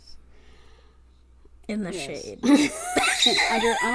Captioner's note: laughs